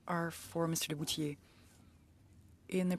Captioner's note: speaking French